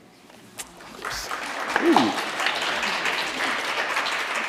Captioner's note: audience applauds